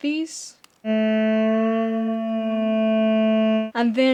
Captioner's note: slow moaning